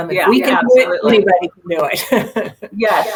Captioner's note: laughing